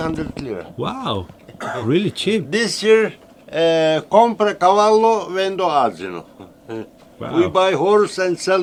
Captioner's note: Turkish